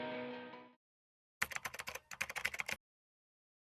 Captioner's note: keyboard taps